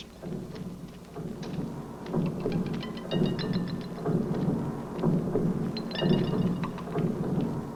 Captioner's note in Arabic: خطوات قوية; موسيقى مبهجة